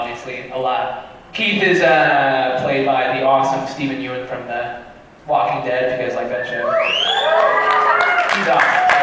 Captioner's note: cheering